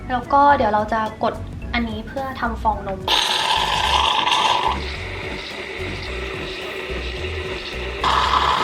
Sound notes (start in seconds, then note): 3.0 froth milk coming out